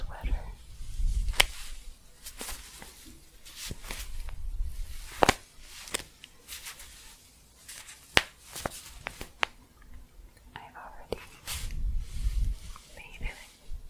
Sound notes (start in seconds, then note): 1.8 staticky shuffling and crinkling